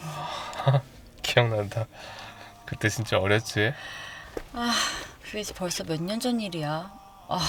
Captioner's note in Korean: 한숨